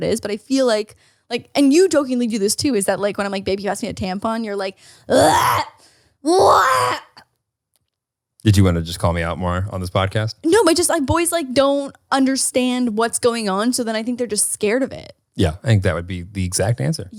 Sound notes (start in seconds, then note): 5.1 gags